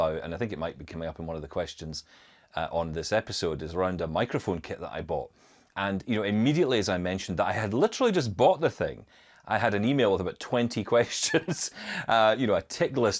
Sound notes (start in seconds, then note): 11.3 laughs